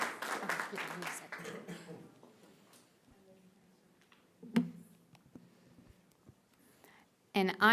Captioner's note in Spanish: aplausos